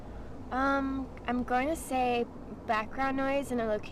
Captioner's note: humming